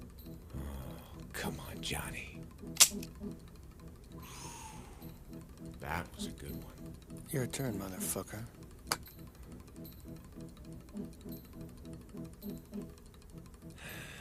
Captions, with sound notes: Come on, Johnny. (light clicking) That was a good one. - Your turn, motherfucker.